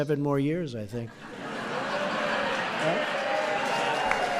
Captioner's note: laughter